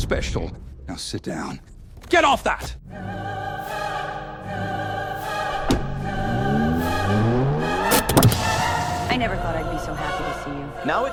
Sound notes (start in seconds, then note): 2.7 dramatic choral music; 7.3 engine roaring